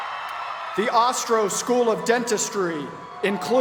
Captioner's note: cheers and applause